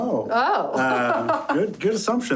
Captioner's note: laughs